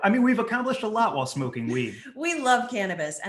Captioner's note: laughing